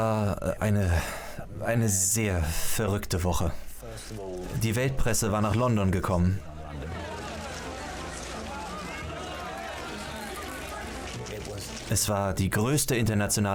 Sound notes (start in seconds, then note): 6.4 loud chatter